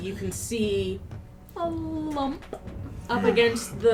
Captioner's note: pops the "p"